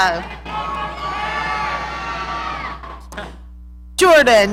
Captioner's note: audience cheering